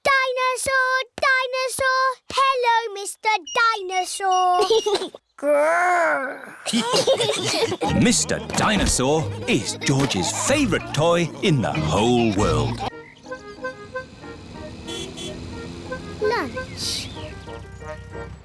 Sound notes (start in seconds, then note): 6.6 giggles; 6.6 laughter; 14.9 horn honks